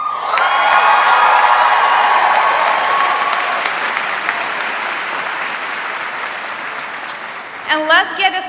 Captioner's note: applause